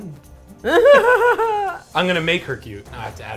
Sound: laughs

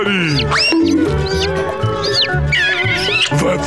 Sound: chirping, kissing

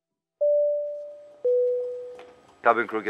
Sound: airplane beeping

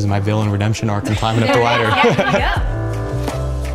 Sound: laughing

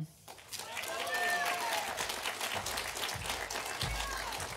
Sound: audience applauding

